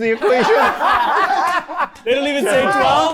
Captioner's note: everyone laughing